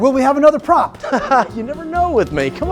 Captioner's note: laughs